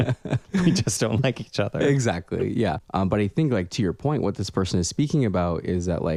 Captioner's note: laugh